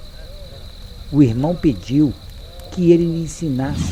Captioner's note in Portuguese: Crepitar da chama; Murmúrio; Crepitar aumenta